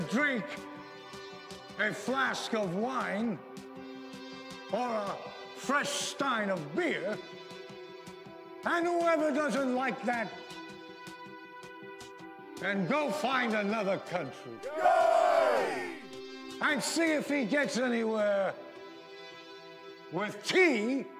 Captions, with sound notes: a flask of wine or a fresh stein of beer, and whoever doesn’t like that can go find another country. - [Crowd] (cheering) - And see if he gets anywhere with tea and sugar water!